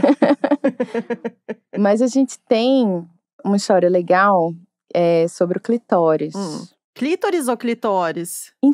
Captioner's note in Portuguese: risos